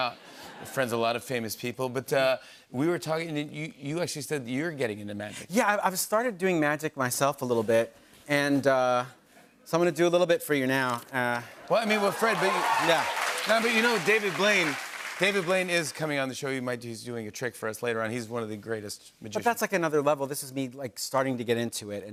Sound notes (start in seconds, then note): 11.6 cheers and applause